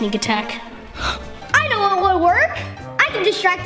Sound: gasps

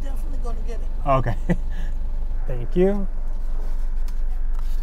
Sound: chuckles

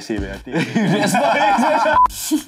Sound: laughs

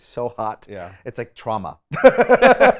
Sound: laughs

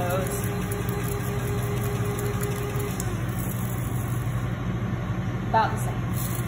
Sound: grinding

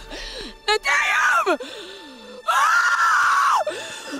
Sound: screams

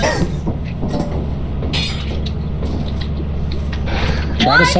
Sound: duck quacking and bottles clinking; footsteps on metal and concrete; metal clacking and clinking

